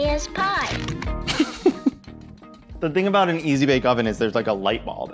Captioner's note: laughs